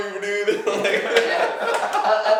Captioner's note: laughing